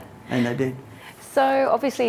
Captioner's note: both laughing